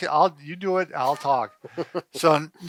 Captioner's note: chuckles